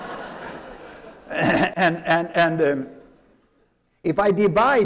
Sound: laughter

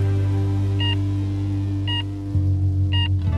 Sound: beeping

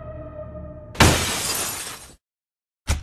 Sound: glass shattering

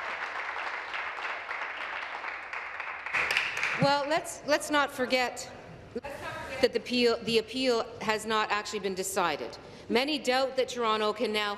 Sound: applause

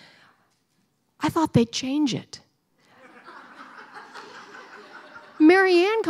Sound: laughter

